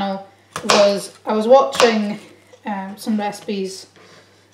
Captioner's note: chopping sounds